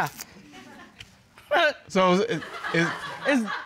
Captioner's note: scoffs